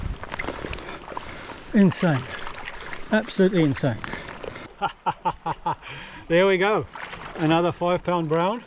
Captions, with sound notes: Insane. Absolutely insane. [laughs] There we go. Another £5 brown.